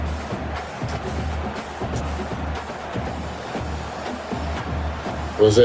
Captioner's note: crowd Noises